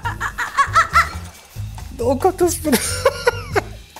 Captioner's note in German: Lachen